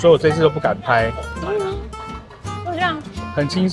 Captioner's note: laughs